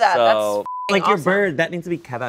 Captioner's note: beep